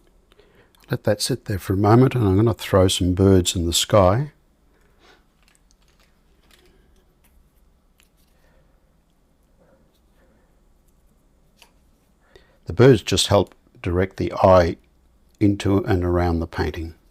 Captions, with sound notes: Let that sit there for a moment, and I'm going to throw some birds in the sky. [silence] The birds just help direct the eye into and around the painting.